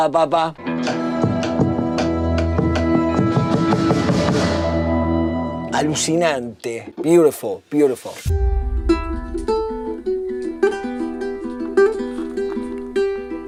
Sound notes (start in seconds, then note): 5.3 speaking in spanish